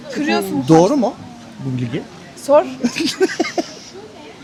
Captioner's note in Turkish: kahkaha